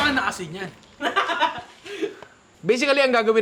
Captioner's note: laughter